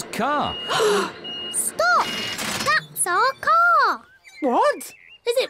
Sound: all gasp

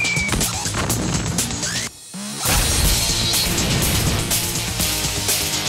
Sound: explosion booms; thuds

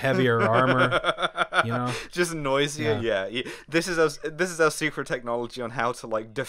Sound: laughter

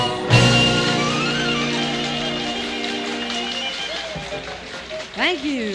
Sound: applause, cheers

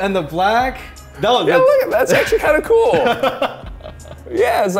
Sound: laughter

